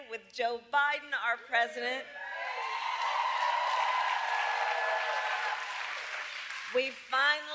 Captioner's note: applause